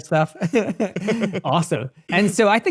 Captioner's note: laughing